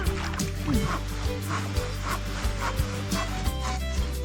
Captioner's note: sawing